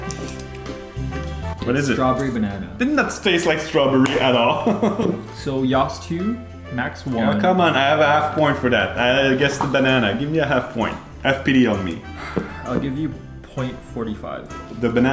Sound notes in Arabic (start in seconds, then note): 0.0 أصوات تقبيل; 4.1 أقصى حد يضحك